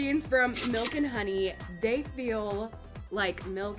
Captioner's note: cash register rings